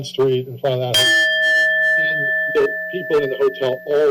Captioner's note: bell dings